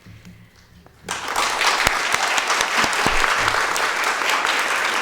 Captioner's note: audience applauding